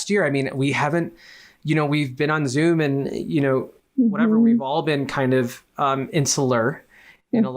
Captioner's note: none